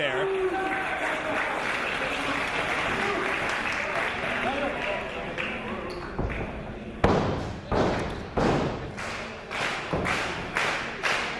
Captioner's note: applause